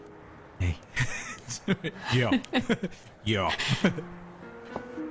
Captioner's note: laugh